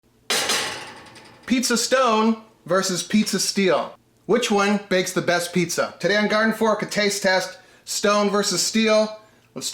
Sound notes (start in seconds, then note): 0.2 metal clangs